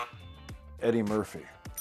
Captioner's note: ding